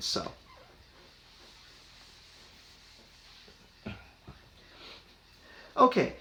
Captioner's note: erasing White Board